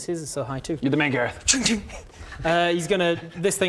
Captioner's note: shing shing